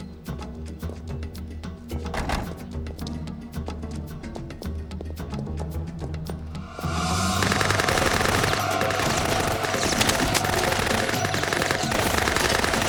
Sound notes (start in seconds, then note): 7.0 gunfire